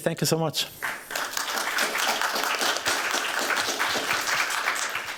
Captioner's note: applause